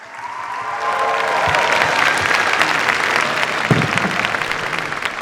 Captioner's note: cheers, applause